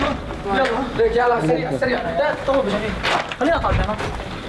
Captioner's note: Arabic spoken audio